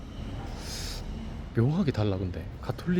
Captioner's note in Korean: 스읍